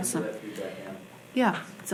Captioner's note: man speaking faintly off mic